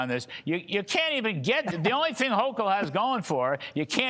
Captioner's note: laughter